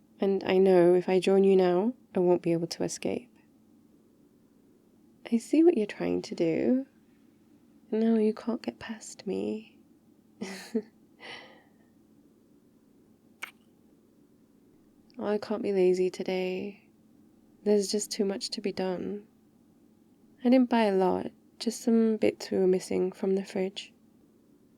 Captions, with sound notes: and I know if I join you now, I won't be able to escape I see what you're trying to do no, you can't get past me *laughs* *kiss* I can't be lazy today there's just too much to be done I didn't buy a lot just some bits we were missing from the fridge